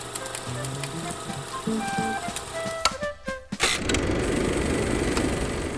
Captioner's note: projector clicking; upbeat music